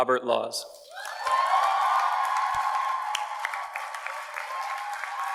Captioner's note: audience cheers and applauds